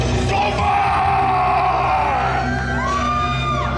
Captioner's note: intense music; shouts; audience cheering